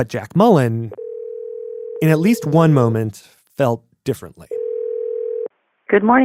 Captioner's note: phone ringing